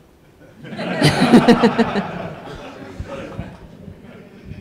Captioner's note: audience laughs